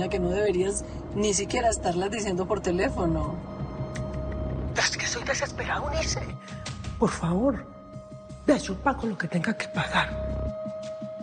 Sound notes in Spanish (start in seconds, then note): none